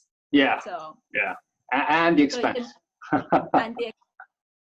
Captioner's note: laughs